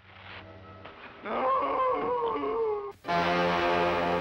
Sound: man wailing; dramatic music

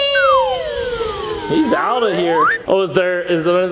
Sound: slide whistle

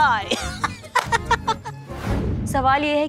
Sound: laughing

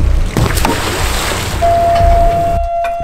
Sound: buoy hitting the water

